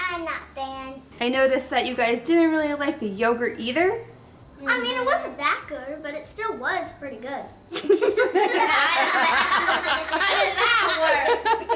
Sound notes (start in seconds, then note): 7.7 giggling